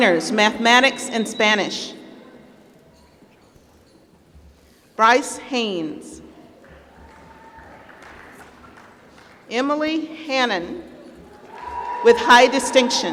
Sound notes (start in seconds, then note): 7.0 applause